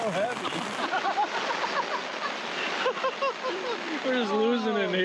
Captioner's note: crew members laughing